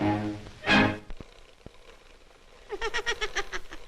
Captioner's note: whirring; snickering